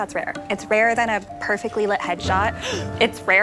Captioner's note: gasps